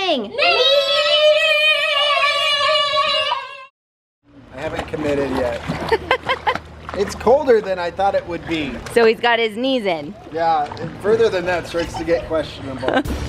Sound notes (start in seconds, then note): 5.9 laughing; 13.0 upbeat music